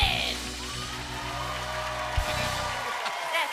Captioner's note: cheers and applause